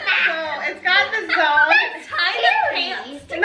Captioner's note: everyone laughs